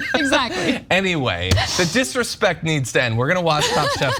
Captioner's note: laugh